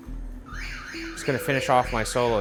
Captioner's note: siren blares